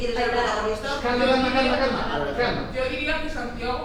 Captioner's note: indistinct chatter